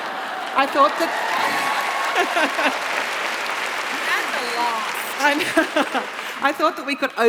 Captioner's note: laughs; applause